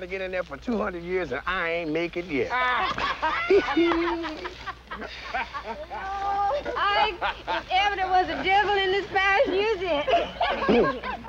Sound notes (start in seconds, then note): 2.6 laughter